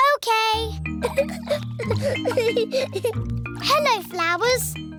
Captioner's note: giggling